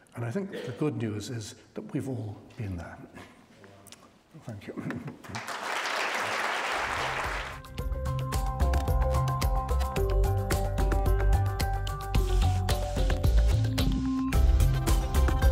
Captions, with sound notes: And I think the good news is that we've all been there. Thank you. (audience applauds) (upbeat synthesizer music)